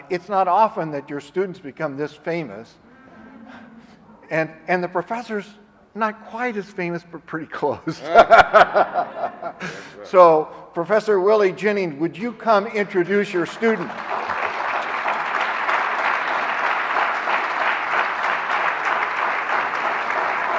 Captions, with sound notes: It's not often that your students become this famous and the professors not quite as famous, but pretty close. So Professor Willy Jennings, would you come introduce your student? (audience applauding)